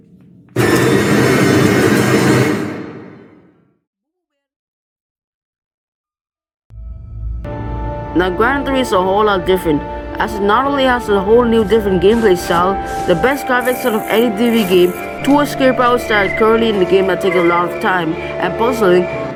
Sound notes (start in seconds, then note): 3.3 silence